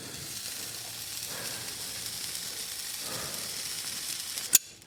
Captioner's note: hoof sizzling 🔥